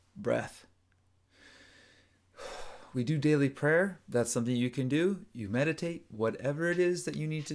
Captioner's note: inhales and exhales